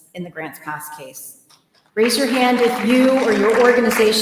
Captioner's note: applause